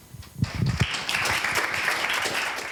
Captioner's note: applause